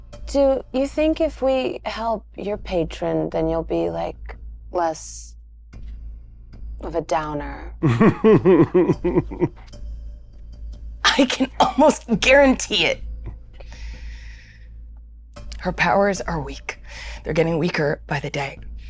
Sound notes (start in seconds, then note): 7.8 chuckles